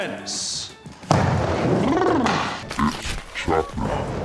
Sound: shivers

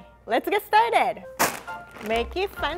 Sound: bag crunches

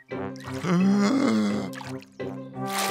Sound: takes a deep breath

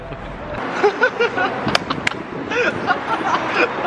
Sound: he cracks up

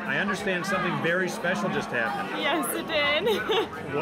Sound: laughs

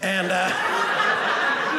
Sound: audience laughing

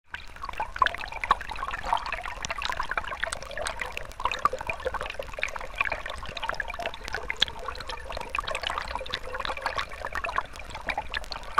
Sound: sound of flowing Water

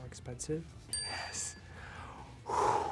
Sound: bell dings

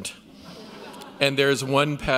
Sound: audience laughs

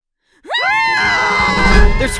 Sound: both screaming

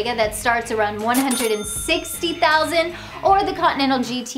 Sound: cash register dings

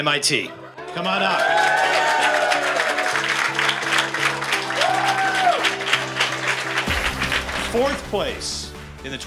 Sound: applause

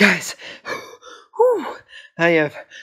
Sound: wheeze; pant

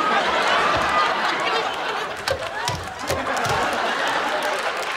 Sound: audience laughing

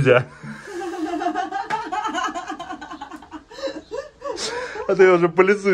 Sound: laughter

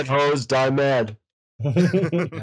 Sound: laughter

